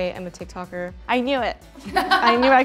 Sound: laughing

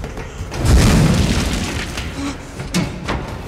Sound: flames crackle; frantic hurried footsteps

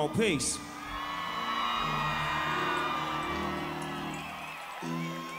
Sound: audience applauding

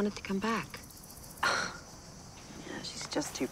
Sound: sighs

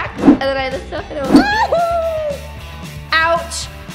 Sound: yelps

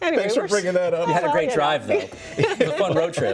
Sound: laughter

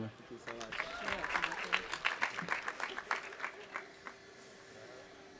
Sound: audience applauding

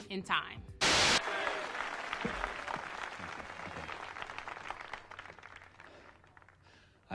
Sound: TV static hisses; audience applauds

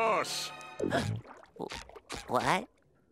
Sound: gasping

